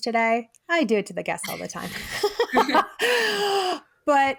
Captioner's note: chuckles